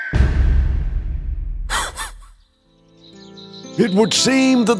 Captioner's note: dog laughs